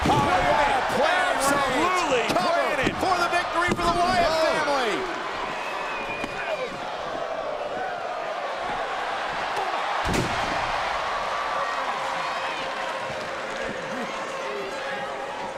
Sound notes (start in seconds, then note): 6.9 crowd gasps; 10.0 crowd cheers